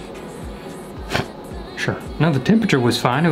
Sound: scoffs

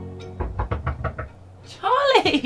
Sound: knocking

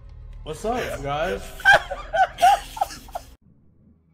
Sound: laugh

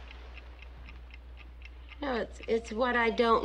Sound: clock ticking

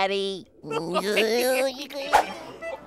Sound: laughing

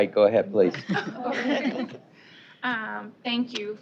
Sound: laughter

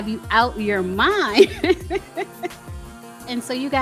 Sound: laughing

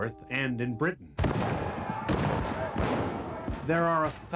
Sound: gunfire

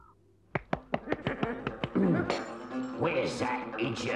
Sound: staff thumps

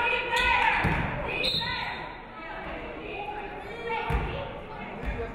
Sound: referee whistles

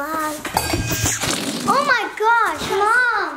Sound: balloon blows air

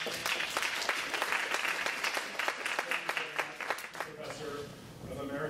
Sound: audience clapping

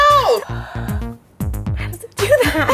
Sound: breathes; laughing

